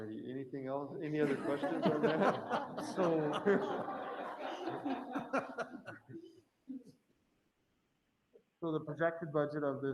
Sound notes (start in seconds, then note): 1.2 laughs